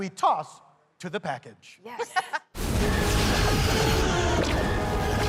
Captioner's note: laughter